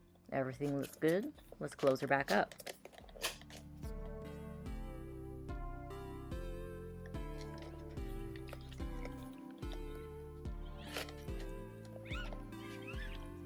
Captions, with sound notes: Everything looks good --let's close her back up! (noise of battery cover clicking. into place) (synth music continues)